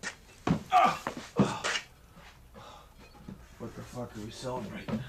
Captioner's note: man grunting